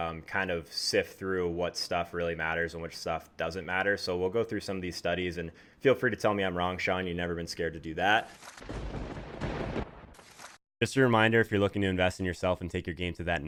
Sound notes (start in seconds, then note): 8.6 thunder rumbling